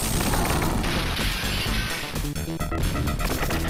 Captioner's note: shooting